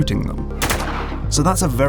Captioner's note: gunfire